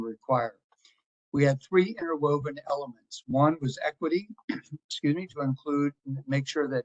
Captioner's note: cough